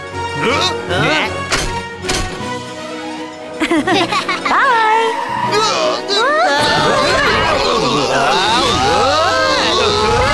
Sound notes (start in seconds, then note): 3.6 Hana and Duri laugh; 5.1 police scream, groan